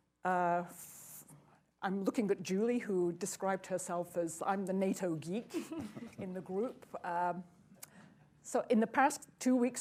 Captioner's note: laughter